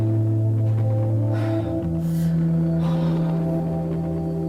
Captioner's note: eerie hum